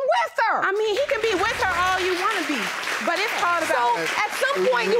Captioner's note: audience applauding